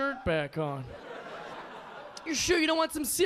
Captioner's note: audience laughing